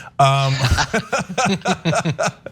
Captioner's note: laugh